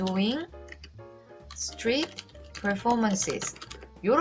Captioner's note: typing